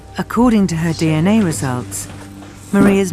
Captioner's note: voiceover